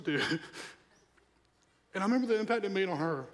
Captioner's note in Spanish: risas